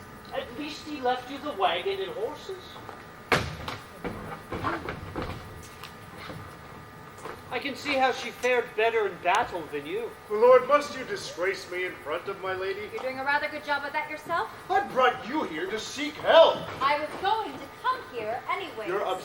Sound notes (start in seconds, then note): 3.3 slam